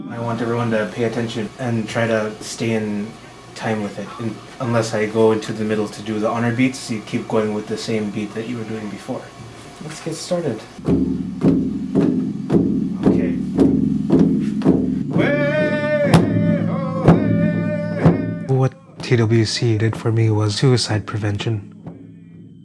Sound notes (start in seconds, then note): 11.0 drumming; 15.3 chanting